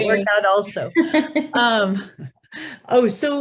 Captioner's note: both laugh